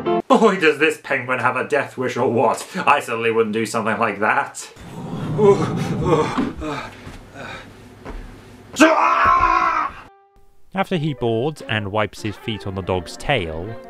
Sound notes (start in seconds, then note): 4.8 shivering; 4.8 wind blowing; 8.8 screams